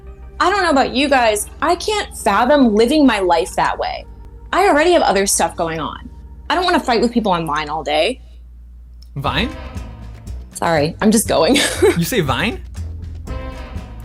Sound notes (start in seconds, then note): 11.5 laughs